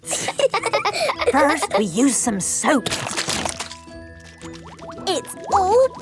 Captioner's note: laughing; squirt! squirt!